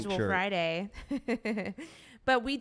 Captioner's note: laughs